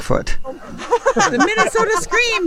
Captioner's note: everyone giggling